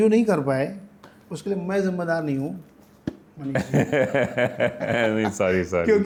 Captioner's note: laughter